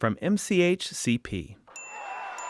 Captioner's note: applause